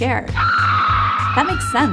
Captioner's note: screaming